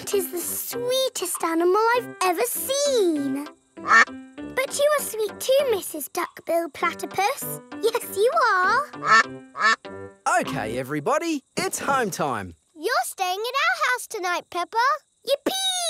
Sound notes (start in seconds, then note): 3.8 quacks; 8.9 quacking